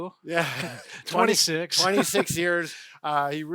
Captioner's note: laughing; chuckles